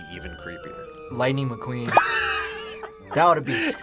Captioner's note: laughs